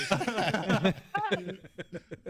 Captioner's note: laughter